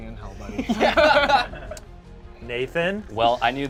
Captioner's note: laughs